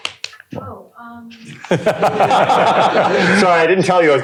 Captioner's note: laughter